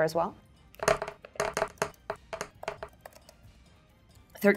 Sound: dice rolling

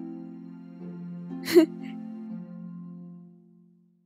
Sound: Pear laughs

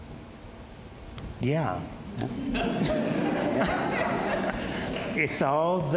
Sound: audience laughs

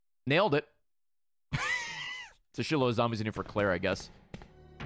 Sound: laughs

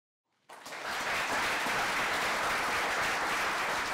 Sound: applause

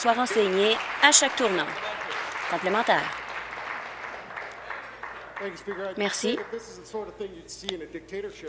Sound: applause

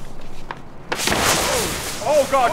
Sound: whoooosh

